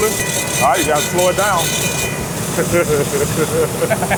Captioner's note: laughs